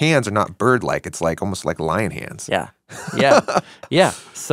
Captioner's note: laughs